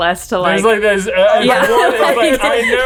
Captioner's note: all chattering indistinctly